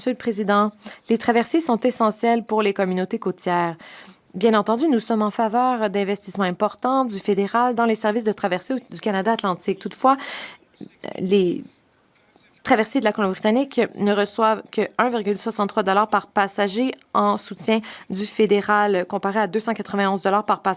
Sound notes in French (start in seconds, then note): 3.8 voix de l'interprète